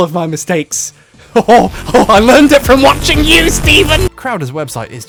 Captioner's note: voice grows sinister